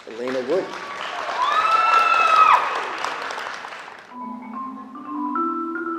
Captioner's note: applause